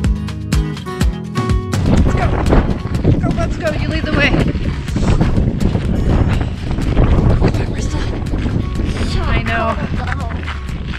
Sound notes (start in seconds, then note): 4.9 wind whipping loudly